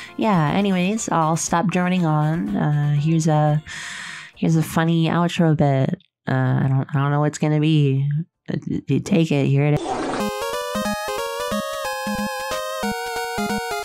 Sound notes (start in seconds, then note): 9.8 wet fart sfx; 9.8 outro music